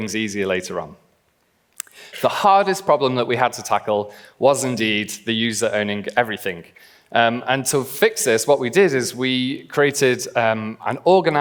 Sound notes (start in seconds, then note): none